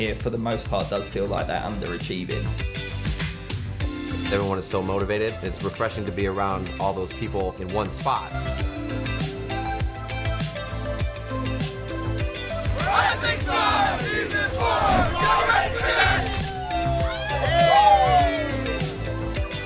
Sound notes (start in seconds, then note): 3.1 upbeat music; 8.7 upbeat music; 16.6 cheering